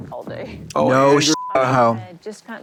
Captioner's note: beep